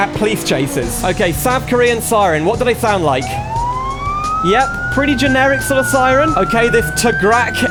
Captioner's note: siren Noise